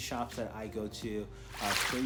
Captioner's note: swoosh pop